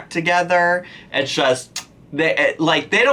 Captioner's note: lips smacking